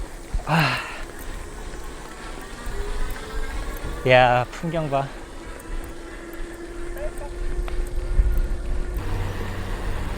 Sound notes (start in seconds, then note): 7.6 click